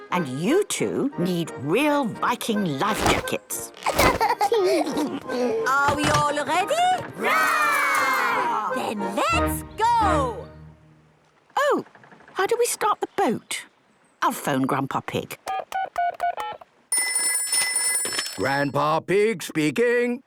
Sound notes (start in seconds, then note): 16.9 dial tones beeping; 16.9 ringing